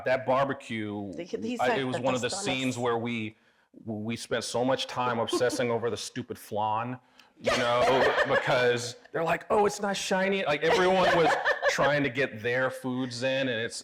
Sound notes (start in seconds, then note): 7.5 everybody laughing; 10.6 laughing